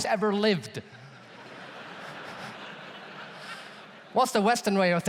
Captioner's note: audience laughs